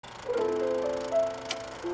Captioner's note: film projector running; piano music